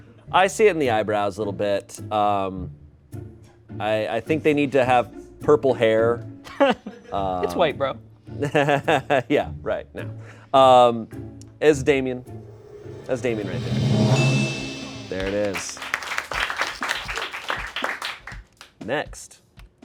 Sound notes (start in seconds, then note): 14.1 bell chimes; 15.5 crew applauds